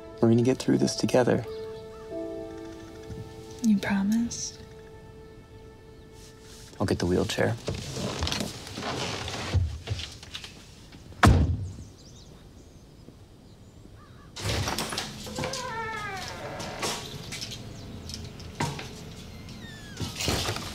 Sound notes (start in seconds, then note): 14.4 door creaks open